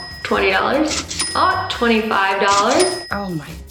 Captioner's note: cash register beeping